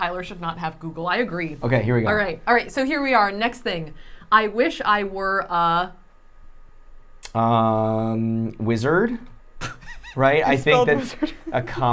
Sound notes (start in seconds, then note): 9.3 laughing